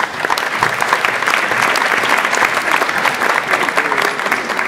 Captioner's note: audience applauds